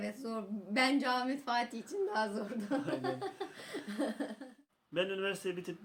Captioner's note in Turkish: Gülüyorlar